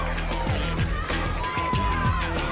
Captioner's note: crowd cheering